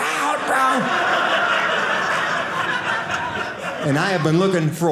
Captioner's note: audience laughing